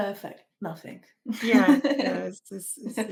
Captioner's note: laughs